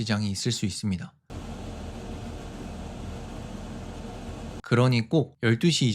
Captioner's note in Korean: 환풍기 소음